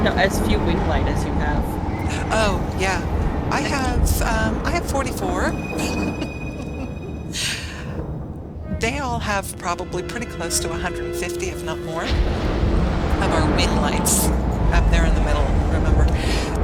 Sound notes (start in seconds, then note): 5.7 laughter